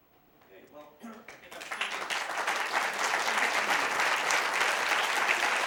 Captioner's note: applause